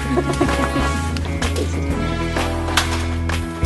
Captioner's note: Jeon Ji Hyun laughs